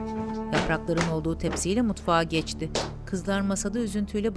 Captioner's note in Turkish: Ayak sesi